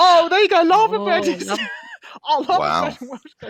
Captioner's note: laughs